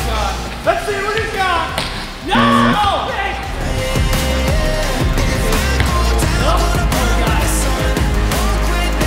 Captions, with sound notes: Let's see what he's got. Yeah! [BUZZER]